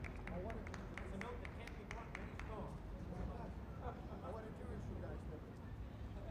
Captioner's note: indistinct chatter